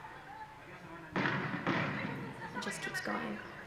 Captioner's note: gunshots